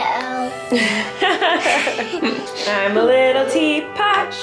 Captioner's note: laughs